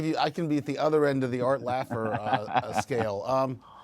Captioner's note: laughter